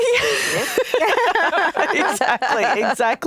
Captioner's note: chuckles